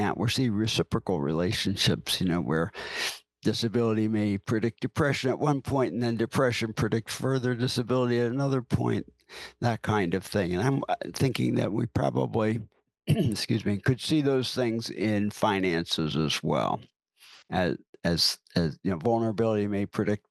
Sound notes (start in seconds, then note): 13.1 clears throat